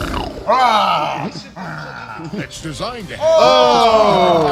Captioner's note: growls; snarls